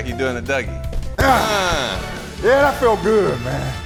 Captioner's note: intense dramatic music; Spice grunting; screaming